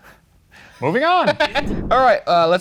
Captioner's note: laughs